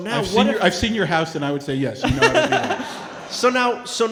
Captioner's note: audio cutting out